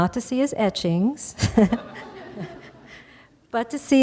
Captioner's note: laughter